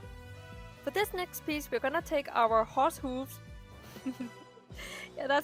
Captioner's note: giggles